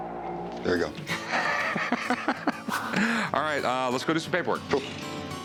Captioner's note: laughs